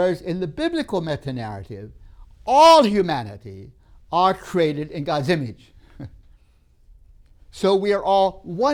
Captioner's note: laughs